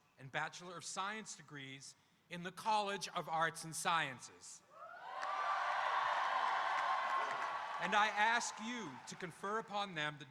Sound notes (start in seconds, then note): 4.8 audience cheering